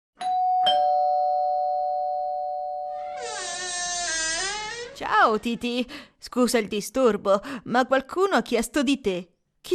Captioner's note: A bell rings and the door opens